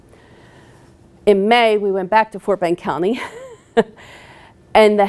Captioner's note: laughing